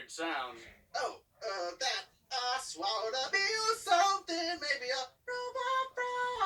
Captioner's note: autotuned voice